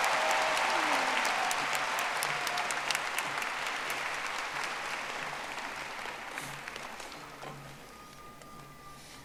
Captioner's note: audience applauding